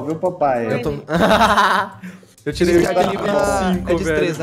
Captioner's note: laughs